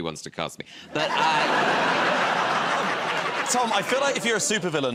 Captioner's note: laughter